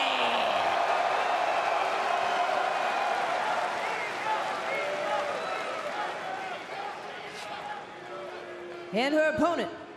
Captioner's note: crowd cheering